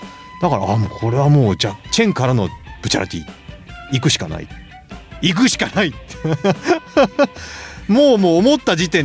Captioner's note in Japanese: 笑い